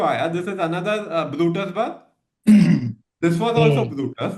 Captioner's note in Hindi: गला साफ़ करने की आवाज़